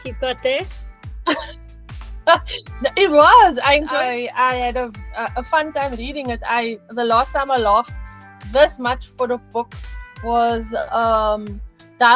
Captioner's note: laughing